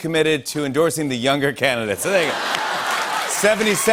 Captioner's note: laughter and applause